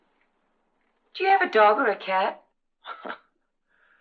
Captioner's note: chuckles